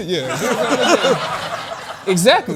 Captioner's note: laughter